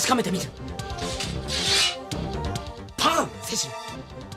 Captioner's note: SFX: sword sheathing